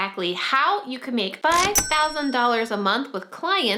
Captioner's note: cash register dings